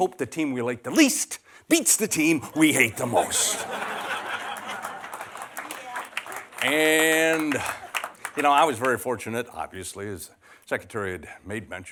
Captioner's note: laughter